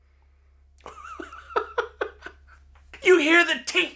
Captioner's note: laughs